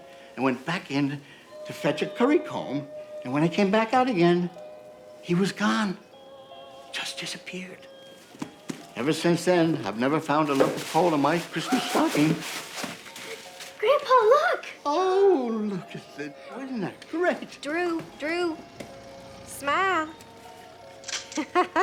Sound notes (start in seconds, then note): 13.2 Drew gasping; 13.2 paper rustling